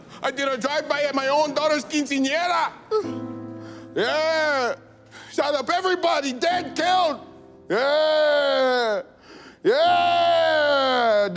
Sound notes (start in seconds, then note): 2.7 sobbing; 2.9 somber music